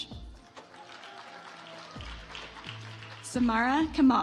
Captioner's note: audience applauds